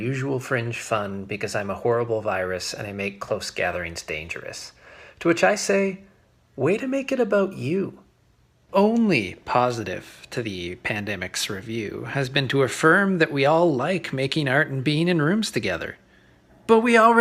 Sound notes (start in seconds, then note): none